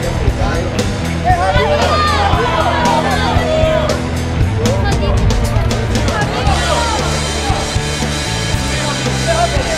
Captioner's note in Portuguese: torcedores gritando